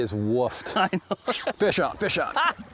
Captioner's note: laughing